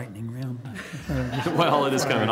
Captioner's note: laughter